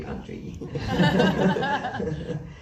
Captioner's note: laughs